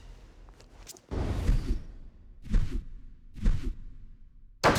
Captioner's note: slowed whirring; echoing thud